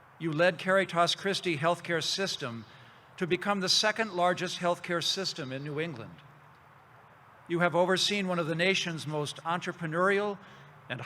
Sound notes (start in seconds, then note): none